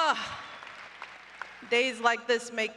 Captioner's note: applause